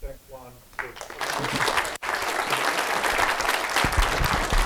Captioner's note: applause